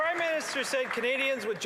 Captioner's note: some Applause